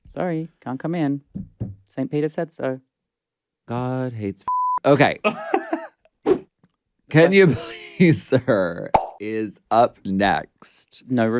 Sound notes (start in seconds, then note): 4.5 beep; 5.2 laughs